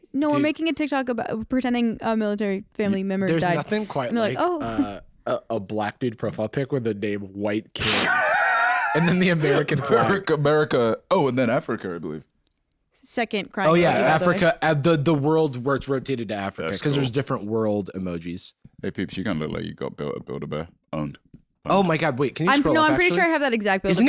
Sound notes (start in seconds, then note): 7.8 laughs